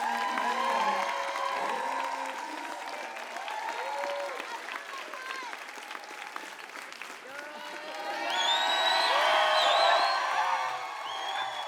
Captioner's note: applause